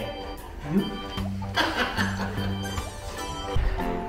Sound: laughs

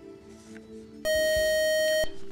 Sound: time-is-out buzzer

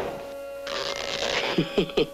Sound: chuckles nervously

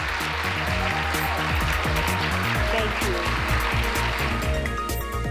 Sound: applause

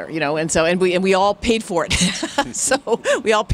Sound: laughs

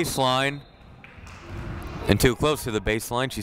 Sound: whistle blowing

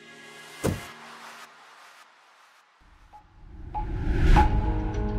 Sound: chair clanking

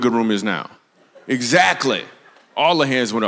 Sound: congregation laughs

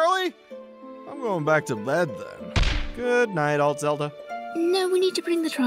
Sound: thud

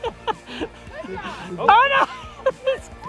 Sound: laughs

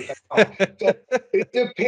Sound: laughs

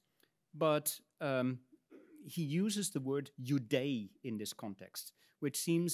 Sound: speaks in Latin

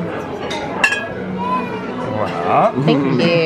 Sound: plates clanking

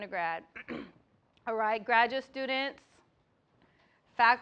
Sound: cough

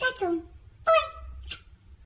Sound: smooch

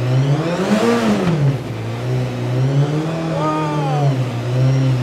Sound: engine revving

